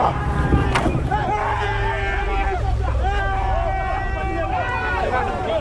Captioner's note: people screaming